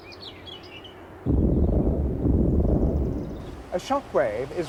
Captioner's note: sonic boom sound